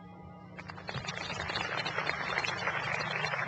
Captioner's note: applause